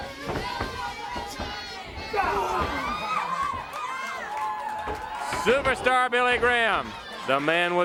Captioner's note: crowd cheering